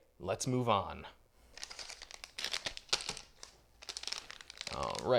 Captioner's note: plastic crinkling with excitement